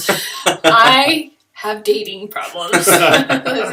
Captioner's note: laughter; laughter